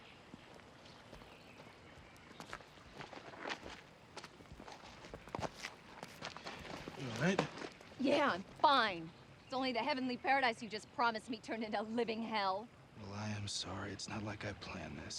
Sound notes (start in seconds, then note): 2.0 footstep